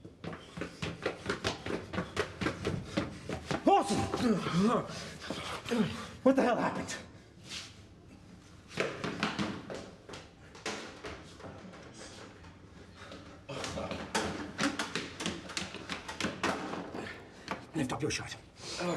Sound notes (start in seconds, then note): 5.2 gasps